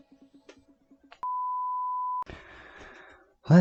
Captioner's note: monotone beep